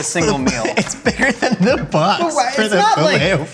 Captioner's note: laughs